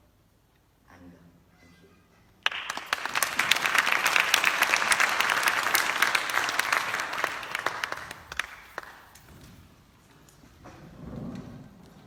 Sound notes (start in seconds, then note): 2.4 clapping